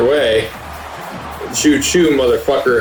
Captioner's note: crowd Noises